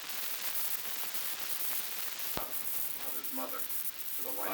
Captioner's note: production chatter